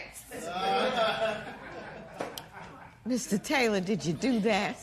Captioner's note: laughter